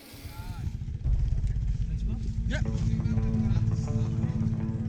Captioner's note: motor whirring